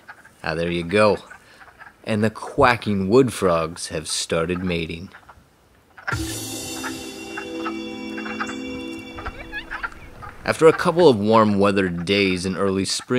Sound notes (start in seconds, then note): 6.1 theme music; 8.1 quacking frogs